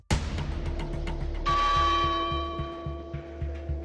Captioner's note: church bell chiming